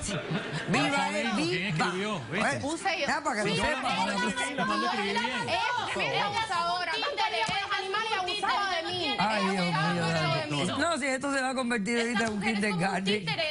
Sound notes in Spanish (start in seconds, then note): 0.0 Risas; 5.9 Hablan al unísono